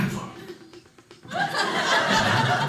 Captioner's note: audience laughing